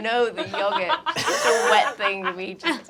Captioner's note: laughing